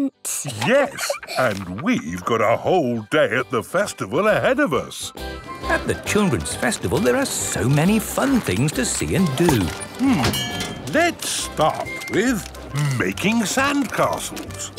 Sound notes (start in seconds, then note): 0.4 laughs; 5.2 festival buzz and music